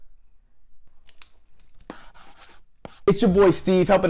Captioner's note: scribbling